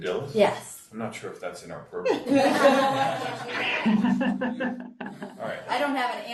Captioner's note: group laughing